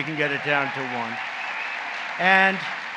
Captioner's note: applause